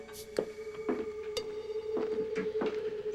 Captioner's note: none